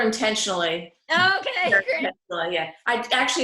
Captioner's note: audio scrambling